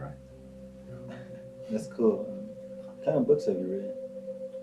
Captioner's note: chuckles